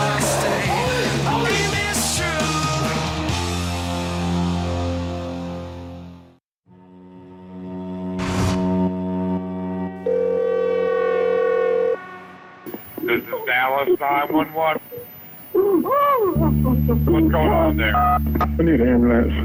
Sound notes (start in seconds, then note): 10.0 phone rings; 15.5 woman sobbing over phone; 17.8 touch tones beep